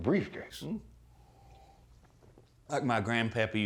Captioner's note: slurping